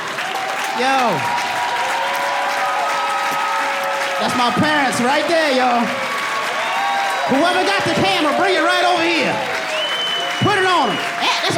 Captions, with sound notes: That's my parents right there, y'all. [AUDIENCE CHEERING] Whoever got the camera bring it right over here. Put it on 'em. This is all my family right there. I got cousins, I got my bae,